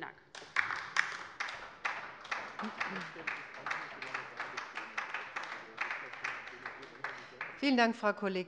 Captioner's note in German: Beifall bei der LINKEN